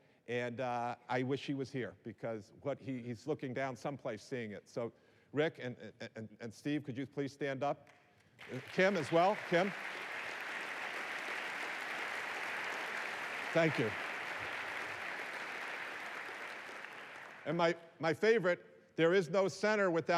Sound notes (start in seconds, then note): 8.2 applause